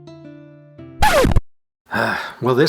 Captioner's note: record scratch